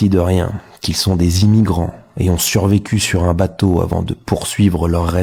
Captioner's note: french dialogue continues